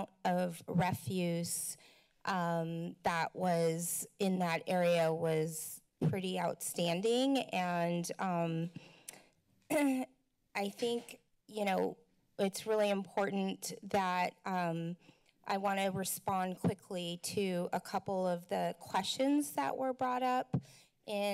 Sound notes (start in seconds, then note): 9.7 clears throat